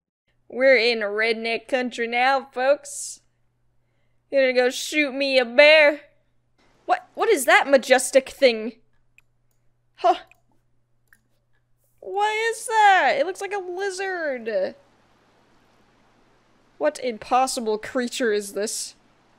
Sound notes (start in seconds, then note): none